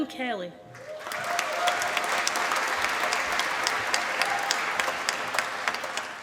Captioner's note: applause